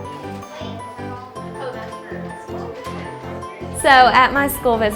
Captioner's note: children chattering